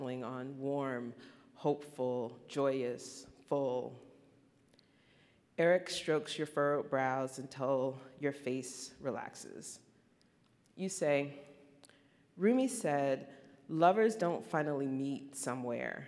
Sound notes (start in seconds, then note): none